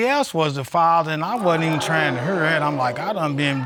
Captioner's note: audience exclaims